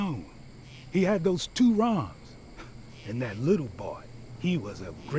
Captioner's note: scoffs